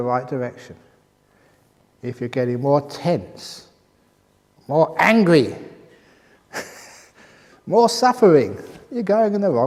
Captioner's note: laughs